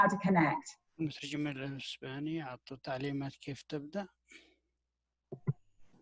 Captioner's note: speaking in foreign language